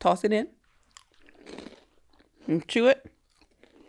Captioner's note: chewing